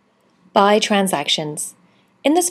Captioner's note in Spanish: Voz en off